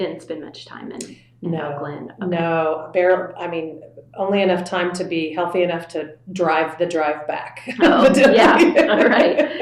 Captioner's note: laughter